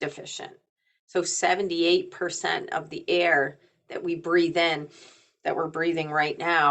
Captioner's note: inhales deeply